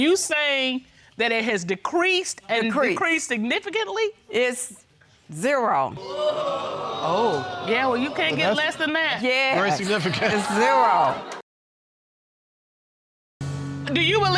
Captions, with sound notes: Are you saying that it has decreased, and it has decreased significantly? It's zero. (AUDIENCE EXCLAIMS) Oh. Yeah, well, you can't get less than that. That's very significant. Yes. Zero. you get a bag of tricks and you just pull 'em out when you need 'em.